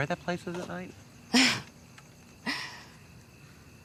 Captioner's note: laughs/Exhales/laughs